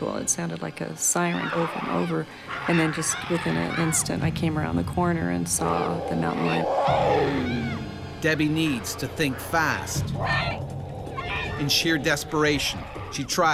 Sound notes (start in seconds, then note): 8.5 voiceover; 11.8 voiceover